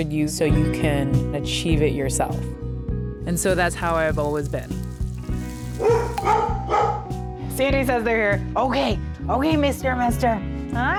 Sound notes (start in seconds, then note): 5.7 dog barking; 6.2 doorbell rings